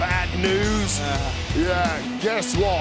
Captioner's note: sighs